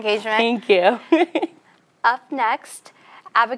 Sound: chuckles

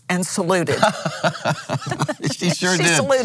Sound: laughs

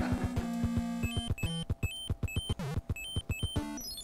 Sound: Mario noises

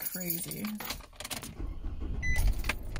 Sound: car ignition starts

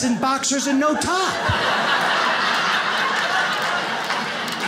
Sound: audience laughs

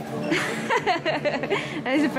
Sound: laughing

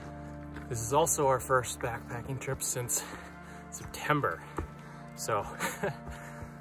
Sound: heh

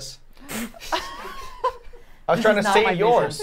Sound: laughing

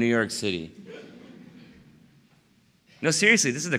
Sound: laughter

